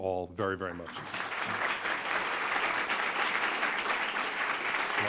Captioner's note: audience clapping